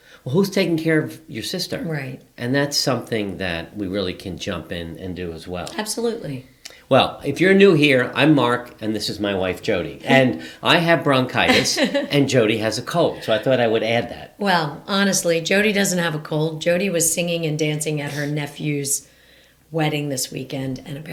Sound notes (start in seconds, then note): 11.1 laughing